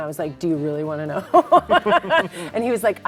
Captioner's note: both laughing